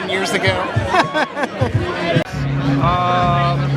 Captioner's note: laughs